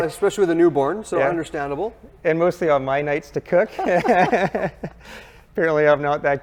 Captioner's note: laughs